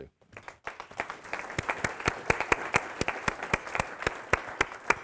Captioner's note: audience applauding